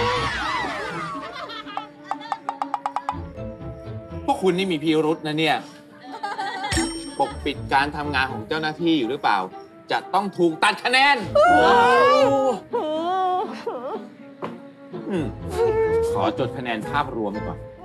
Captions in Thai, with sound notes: พวกคุณนี่มีพิรุธนะนี่ ปกปิดการทำงานของเจ้าหน้าที่อยู่หรือเปล่า จะต้องถูกตัดคะแนน [เสียงร้อง] ขอจดคะแนนภาพรวมก่อน